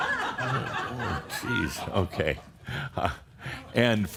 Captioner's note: laughter